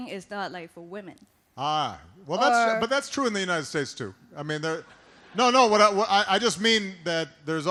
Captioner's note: laughter